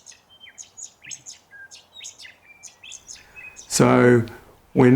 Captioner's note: birds chirping